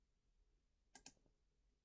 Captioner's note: click